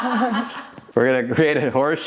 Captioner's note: laughing